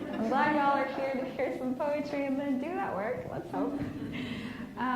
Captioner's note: laughs